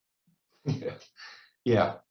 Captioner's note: chuckles